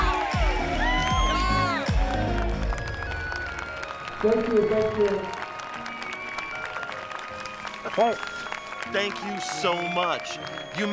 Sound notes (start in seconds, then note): 3.0 crowd clapping; 5.4 crowd clapping